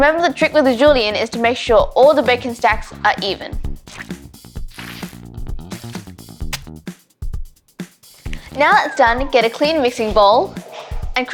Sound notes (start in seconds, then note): 4.1 upbeat techno music; 4.7 squelching